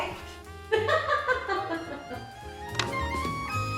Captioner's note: laughs; upbeat music